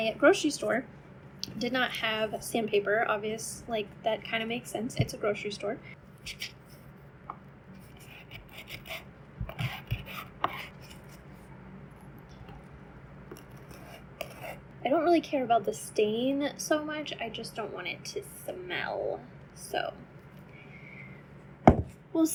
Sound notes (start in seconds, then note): 6.2 scraping sounds